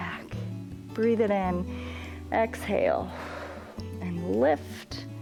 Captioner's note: exhales